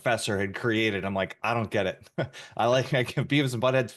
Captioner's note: laughs